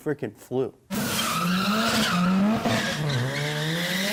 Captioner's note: tires squealing